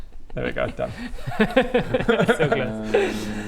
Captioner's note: mischievous laugh